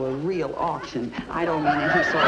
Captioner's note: audience laughs